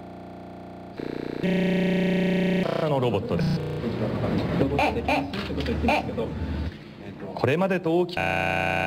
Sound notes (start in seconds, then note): 2.2 foreign Language; 7.7 corrupt Audio